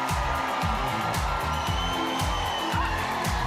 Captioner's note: cheers and applause